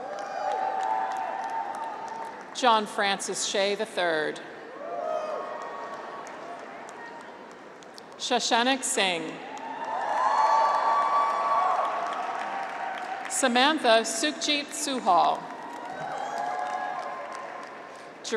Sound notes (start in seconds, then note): 0.0 graduates cheer; 4.7 graduates cheer; 9.5 audience applauds; 9.5 graduates cheer; 15.4 graduates cheer